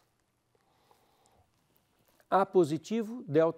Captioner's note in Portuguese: pausa sonora